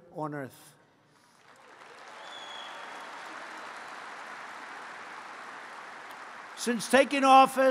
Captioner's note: applause